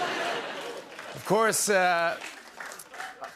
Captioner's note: applause